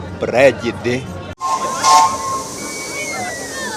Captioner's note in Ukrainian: Звук гудка